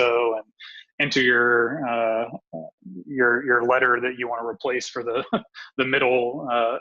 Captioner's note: laughs